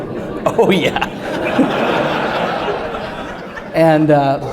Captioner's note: laughter